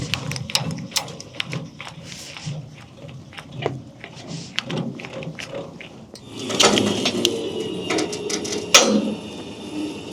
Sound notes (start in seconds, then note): 6.1 machinery humming